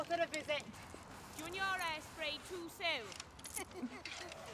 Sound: frantic breathing

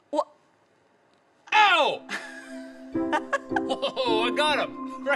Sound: woman laughs

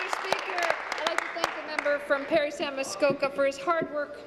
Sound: applause

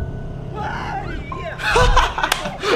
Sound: screaming continues

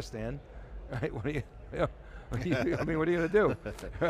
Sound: both chuckle

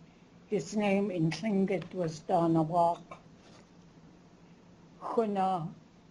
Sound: speaking tlingit

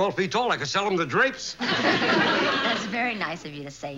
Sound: both laugh

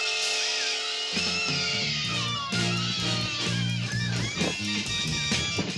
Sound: all screaming; quirky music; all screaming

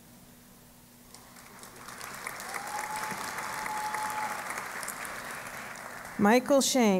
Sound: applause

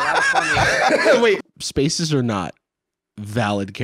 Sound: laughing

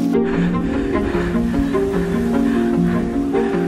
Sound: puffing

